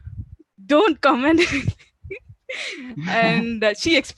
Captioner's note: laughing